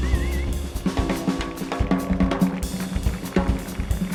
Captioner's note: audience applauding